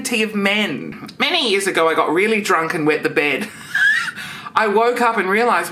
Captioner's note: laughs